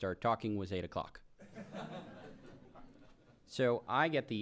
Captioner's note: laughter